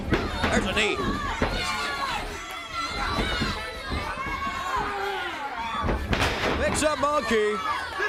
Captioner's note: crowd chatter